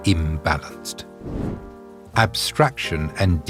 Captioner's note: air whooshing